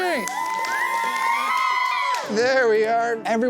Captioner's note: children cheering